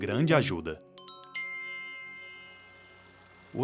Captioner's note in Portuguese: tilintar